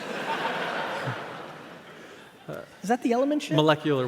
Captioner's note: audience laughs